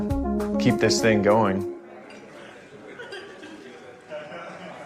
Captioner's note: indistinct chattering